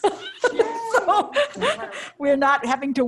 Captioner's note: laughs